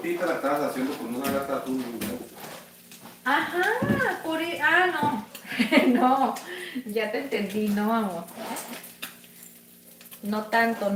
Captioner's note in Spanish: risas